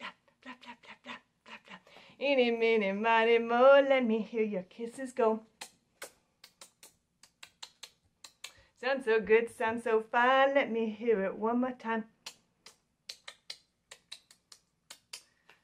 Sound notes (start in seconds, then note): 5.4 smooching; 12.2 smooching